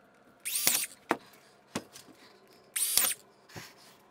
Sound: machine buzzing

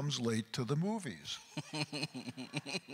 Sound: chuckles

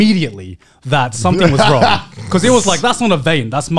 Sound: laughing

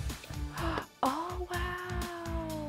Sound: gasps

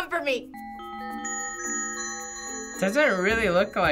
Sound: bells tinkling

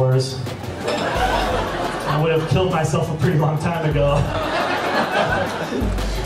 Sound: laughs

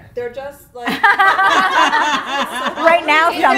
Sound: laughing

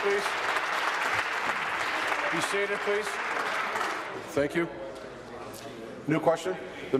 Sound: applause

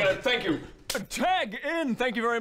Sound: slap

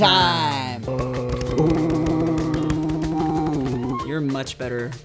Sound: gorilla sounds

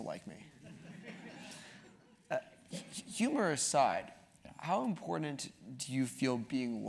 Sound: laugh

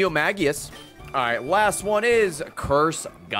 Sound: none

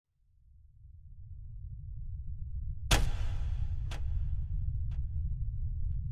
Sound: deep rumbling

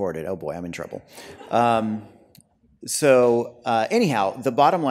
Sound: light laughter

